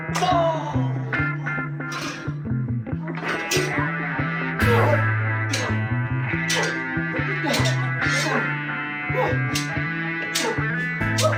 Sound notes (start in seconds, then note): 0.1 smack; 1.8 ringing metal; 6.4 clanging swords